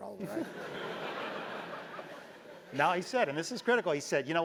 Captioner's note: laugh